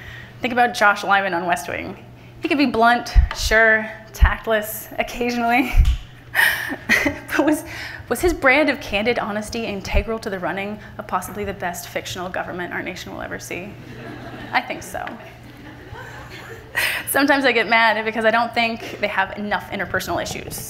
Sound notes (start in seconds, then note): 6.4 laughs; 13.8 laughter from the audience; 15.3 laughs